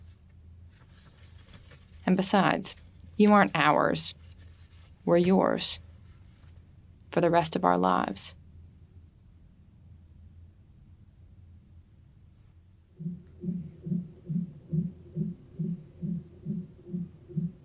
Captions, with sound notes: And besides, you aren't ours, we're yours for the rest of our lives. [heart beating]